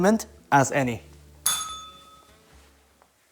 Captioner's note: bell rings